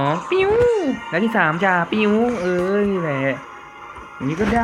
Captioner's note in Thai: พูดเร็วเกิน